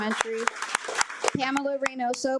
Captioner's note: attendees applaud